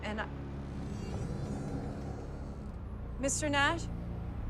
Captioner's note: eerie music; door creaks